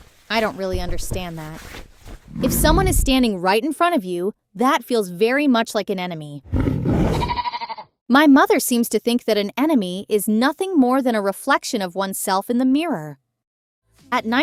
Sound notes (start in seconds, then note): 7.0 bleating